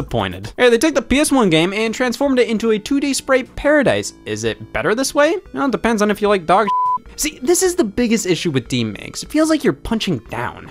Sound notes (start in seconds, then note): 6.6 beep